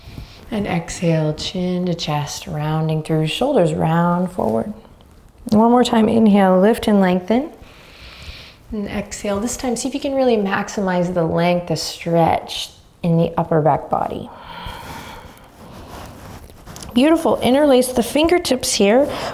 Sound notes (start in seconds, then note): 0.0 inhaling deeply; 7.6 inhaling deeply; 14.3 exhaling deeply